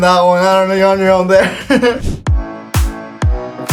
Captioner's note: laughs; upbeat music